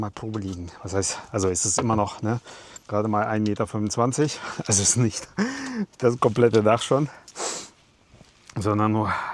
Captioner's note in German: gelächter